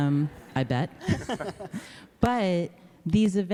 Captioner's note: laughter